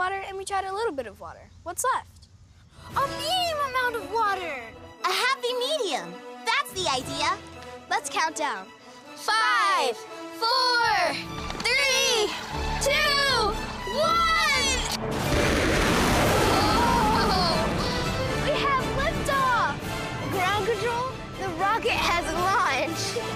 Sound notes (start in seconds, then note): 14.8 rocket launching; 23.1 intense music